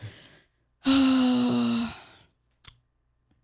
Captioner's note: sighs